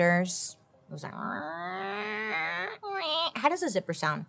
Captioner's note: imitates zipper sound